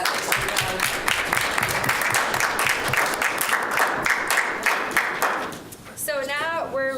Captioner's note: applause